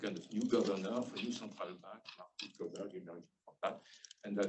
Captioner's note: speaking faintly